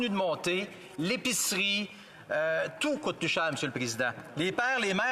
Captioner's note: speaking French